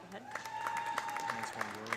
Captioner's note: audience applauding; audience cheering